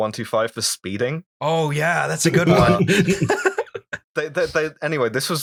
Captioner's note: laughter